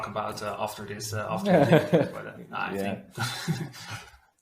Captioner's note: chuckles softly